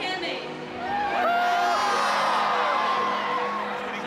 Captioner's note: crowd shouting